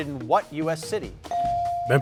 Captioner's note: bell dinging